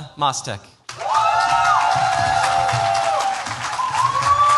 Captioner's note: cheers, applause